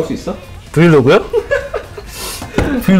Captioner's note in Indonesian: tertawa